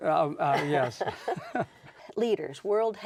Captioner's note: chuckle